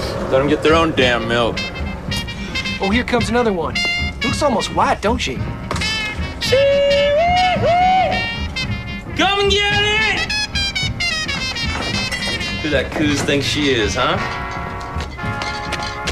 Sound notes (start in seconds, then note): 5.8 hooting